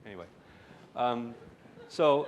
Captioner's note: laughter